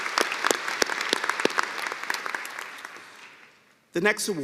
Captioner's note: applause